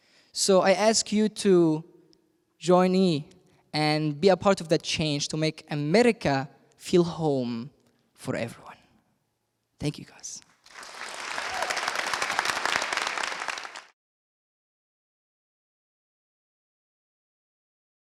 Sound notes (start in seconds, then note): 10.6 applause